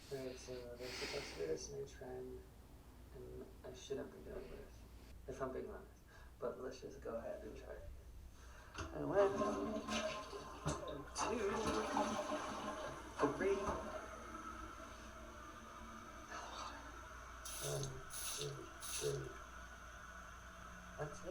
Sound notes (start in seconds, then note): 9.8 toilet flushing; 17.2 water spraying